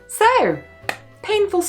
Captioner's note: claps